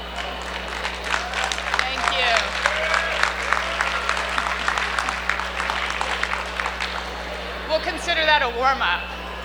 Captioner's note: cheers and Applause